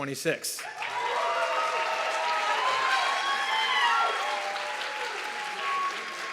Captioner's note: audience clapping and cheering